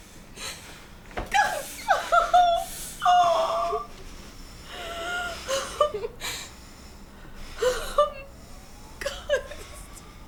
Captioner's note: family cries and whimpers